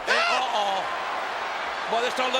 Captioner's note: audience cheers